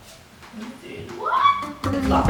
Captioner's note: squeals